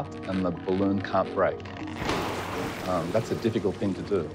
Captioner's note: stretching rubber, water balloon popping